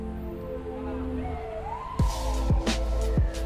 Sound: police siren; mellow music

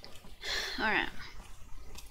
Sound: sigh

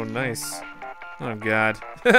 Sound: cartoony digital ringtone; laughter

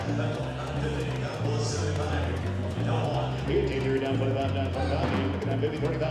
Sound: auctioneers calling

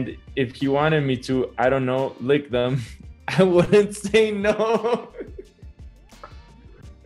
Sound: laughs

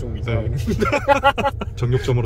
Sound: laughter

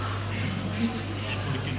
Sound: whispers

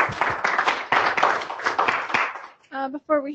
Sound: applause

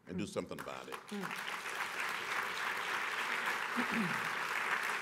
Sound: applause

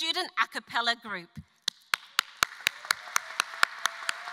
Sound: applause; audience applause

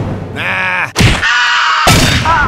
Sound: screaming

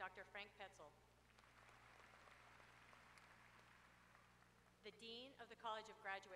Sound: applause

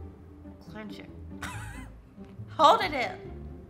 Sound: laughs

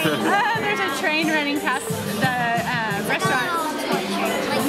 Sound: laughing

